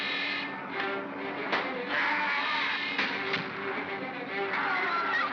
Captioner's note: suspenseful music; Bogeyman screams; thunk; girl screams